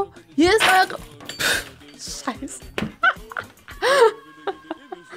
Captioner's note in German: lacht